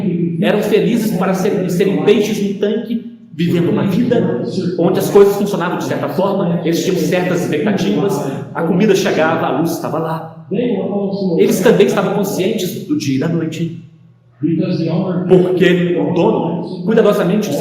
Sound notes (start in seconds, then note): 5.9 Kryon laughs